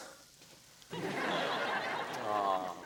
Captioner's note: audience laughs